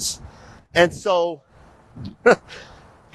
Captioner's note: chuckles